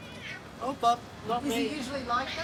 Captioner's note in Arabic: مواء نانو